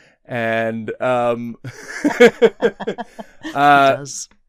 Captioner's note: laughter